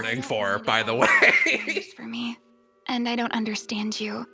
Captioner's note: laughs